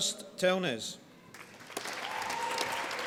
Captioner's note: applause